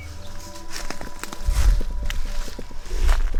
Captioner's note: rustling leaves